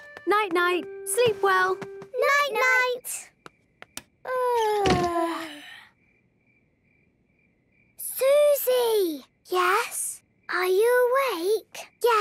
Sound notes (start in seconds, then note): 4.0 both yawning; 4.0 light clicks